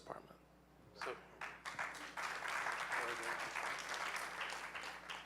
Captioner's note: audience clapping